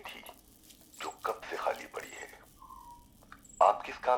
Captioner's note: radio